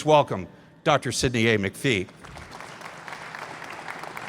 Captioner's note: applause